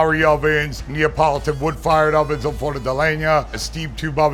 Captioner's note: speaks Italian